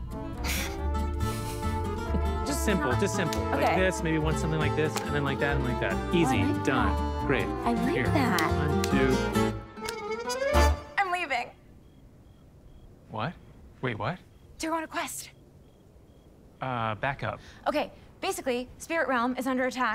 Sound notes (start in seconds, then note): 0.1 chuckles; 11.5 cricket chirping